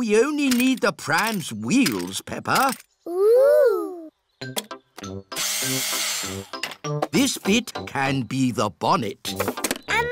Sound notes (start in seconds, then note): 5.6 whirring